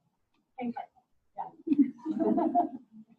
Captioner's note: overlapping laughter and talking